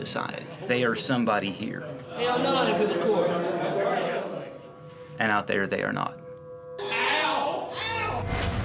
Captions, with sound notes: society, they are somebody here. (chatting) And out there they are not. (shouting)